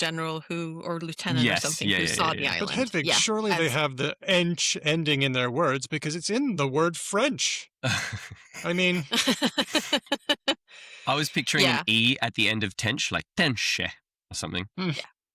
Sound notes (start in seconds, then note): 7.8 laughter